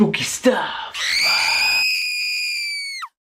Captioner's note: screaming